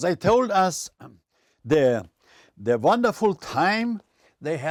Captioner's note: with German accent